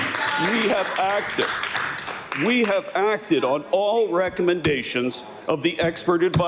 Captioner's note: some Applause